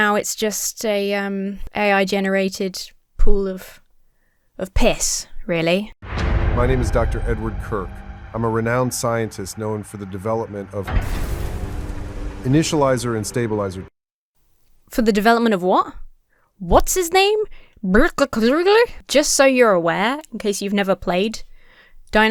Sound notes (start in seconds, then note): 11.1 orchestra stabs; 17.8 speaks gibberish